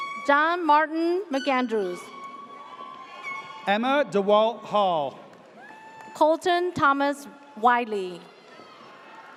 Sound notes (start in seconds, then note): 3.0 air horn blares; 5.5 audience cheers; 8.0 audience cheers